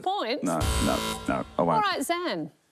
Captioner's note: buzz!